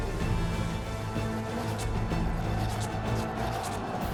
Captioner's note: crowd yells